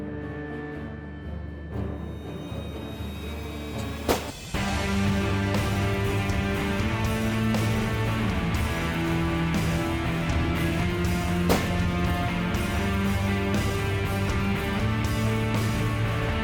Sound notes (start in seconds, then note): 4.0 gun shot; 11.4 gun shot